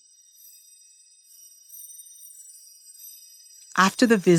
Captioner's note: chimes